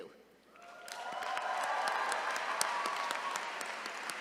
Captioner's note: attendees cheering